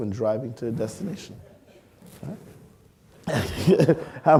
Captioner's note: laughing